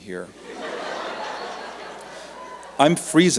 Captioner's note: laughter